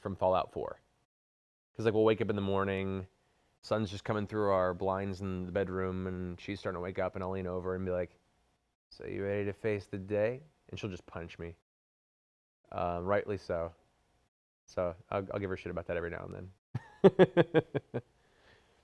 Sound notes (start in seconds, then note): 8.4 MacCready voice; 10.3 normal voice; 16.8 laughs